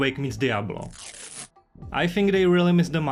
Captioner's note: ducktape sounds